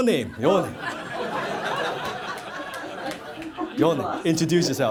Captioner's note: laughter